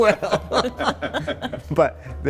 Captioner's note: all laughing